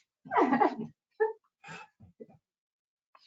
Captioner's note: chuckling